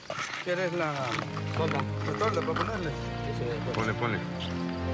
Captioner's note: Spanish language